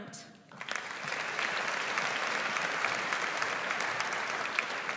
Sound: audience applauds

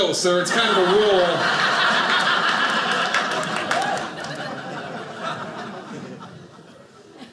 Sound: audience laughing

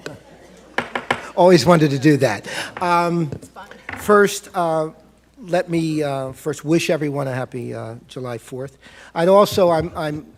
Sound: gavel tap

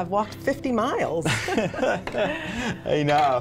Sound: both laughing

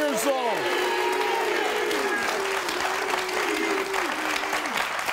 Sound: audience applauding

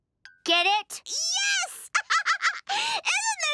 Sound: laughing

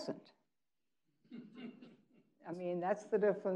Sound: man laughing

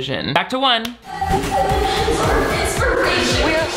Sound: upbeat music; static hissing

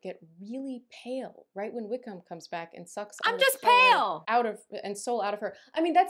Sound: indignantly

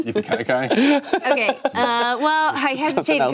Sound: laughing

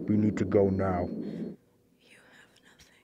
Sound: ringing stops

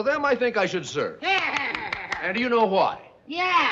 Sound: clapping

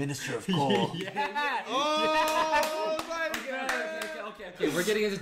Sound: laughs

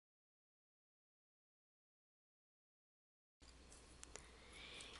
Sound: silence

